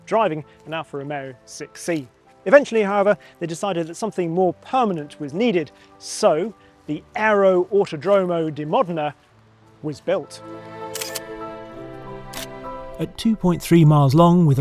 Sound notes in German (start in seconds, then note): 9.6 helle Musik; 10.9 Kameraklicken